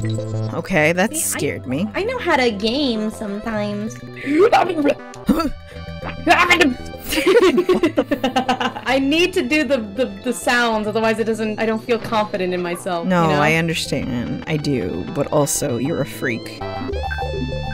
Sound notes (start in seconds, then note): 5.6 breathe in; 7.1 laughing